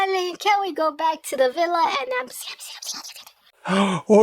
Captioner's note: whispering